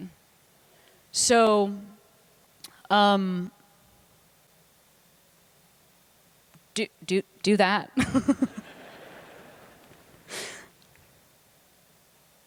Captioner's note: laughter